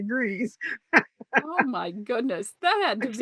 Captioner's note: laughs